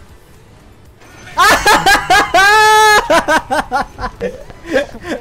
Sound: laughs

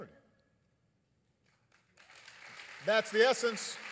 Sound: applause

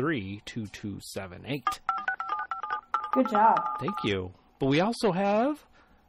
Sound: dialing noises in background

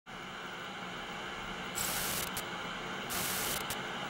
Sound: static buzzes

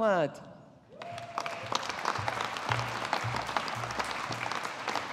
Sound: audience applauding

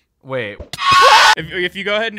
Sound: screams

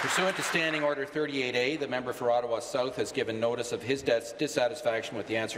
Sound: applause

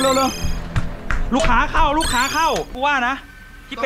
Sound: pat; rapid footsteps; pat

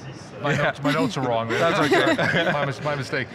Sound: laughs

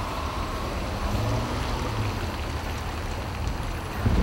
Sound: engine revving

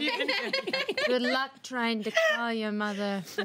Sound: girls laughing

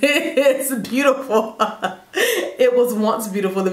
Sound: laughing

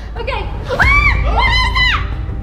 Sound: screaming

